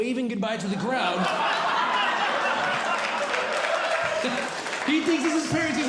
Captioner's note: audience Laughing